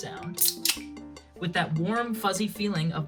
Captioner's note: can cracking